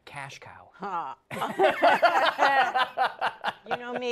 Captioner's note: laughter